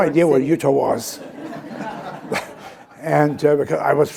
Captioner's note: chuckles; laughter